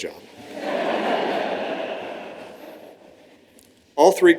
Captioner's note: laughter